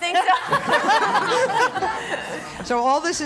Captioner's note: laughing